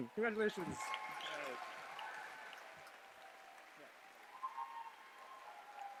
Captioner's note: cheers, applause